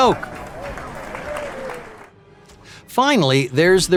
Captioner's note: crowd laugh cheering